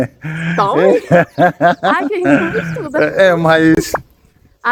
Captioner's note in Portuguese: risadas